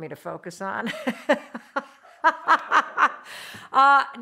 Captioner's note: laughs